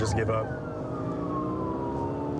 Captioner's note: siren blaring